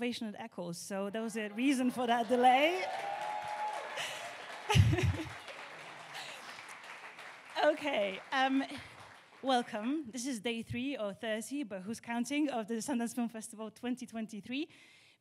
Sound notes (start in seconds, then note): 3.0 audience cheering and applauding; 4.6 laughs